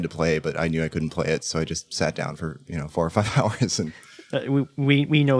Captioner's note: laughs